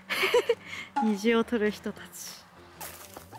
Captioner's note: laughs